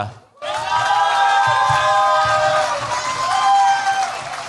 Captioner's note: cheers, applause